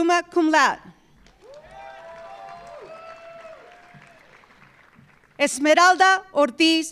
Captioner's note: audience applauding; audience cheering